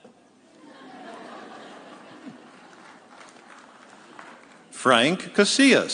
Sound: audience laughing

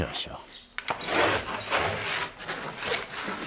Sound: loud scraping noises

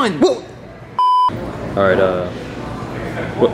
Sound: beeps

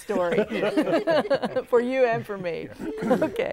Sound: laughing

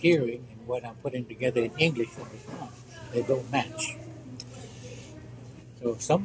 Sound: loud background voices

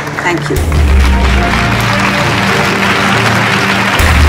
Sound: all clapping

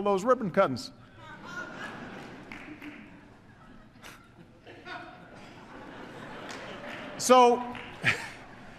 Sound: laughter

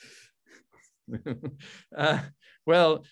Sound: laughs

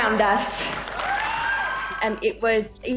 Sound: applause

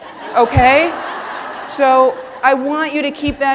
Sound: audience laughing

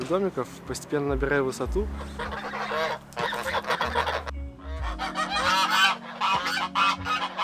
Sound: geese

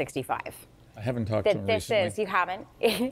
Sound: laughs

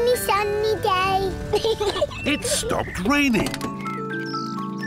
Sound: peppa pig laughs

